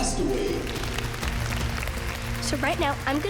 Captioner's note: applause